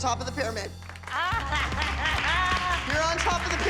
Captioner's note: applause